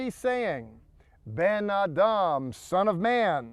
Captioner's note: speaking in Hebrew